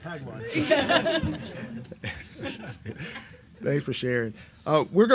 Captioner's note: laughs